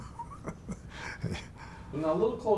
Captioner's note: laughs